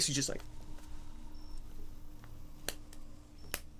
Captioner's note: fingers snapping